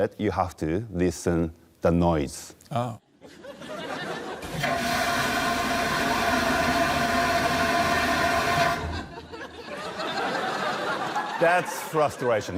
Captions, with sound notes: You have to listen, the noise. Oh. (TOILET FLUSHES LOUDLY) That's frustration.